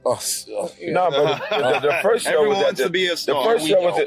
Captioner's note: laughs